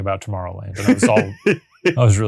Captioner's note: laughing